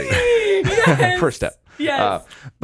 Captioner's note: laughs